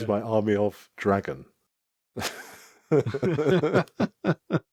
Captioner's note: both laugh